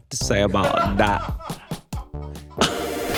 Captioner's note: crew laughing; electronic music